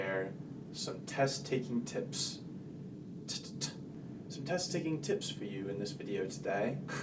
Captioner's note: British accent